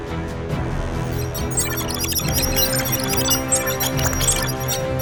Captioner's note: male prototype blipping